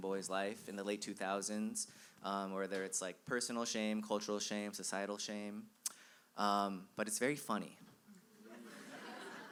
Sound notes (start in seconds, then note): 8.4 laughter